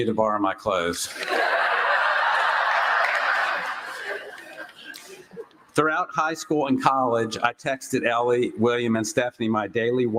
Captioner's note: laughter